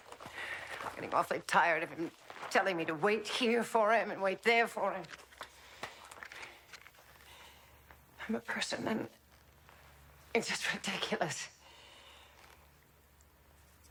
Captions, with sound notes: (sighs) I'm getting awfully tired of him telling me to wait here for him, and wait there for him. (gasping) I'm a person, and it's just ridiculous.